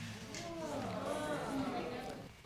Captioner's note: audience exclaims